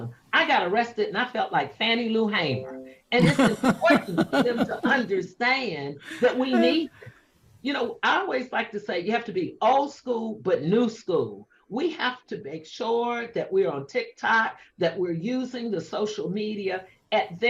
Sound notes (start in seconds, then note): 3.2 laughs